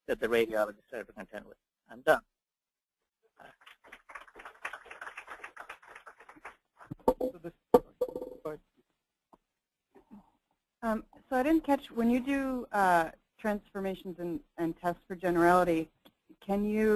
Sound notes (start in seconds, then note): 3.4 applause